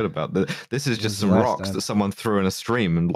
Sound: quietly

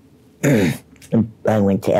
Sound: clears throat

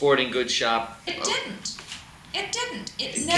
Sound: voiceover

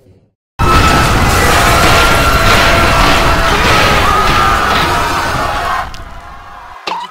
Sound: screaming

